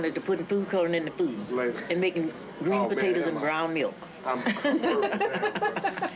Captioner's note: laughing